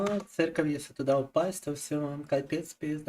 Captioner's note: speaking in Russian